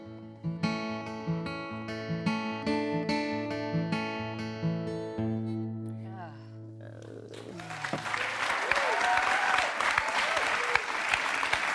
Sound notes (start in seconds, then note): 0.0 guitar music; 7.3 applause